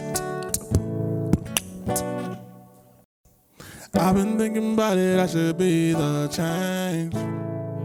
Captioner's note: rhythmic tongue tapping